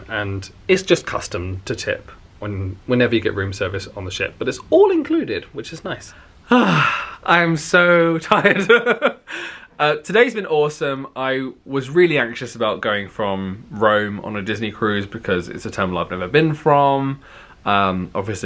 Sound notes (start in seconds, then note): 6.4 sighing; 8.3 chuckling